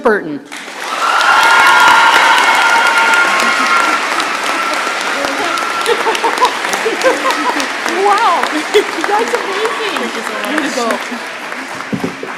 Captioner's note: shouting and applause